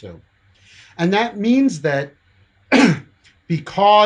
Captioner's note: coughs